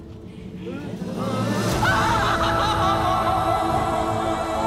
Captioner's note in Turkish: Çığlık atıyor